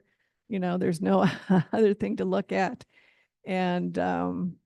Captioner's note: chuckles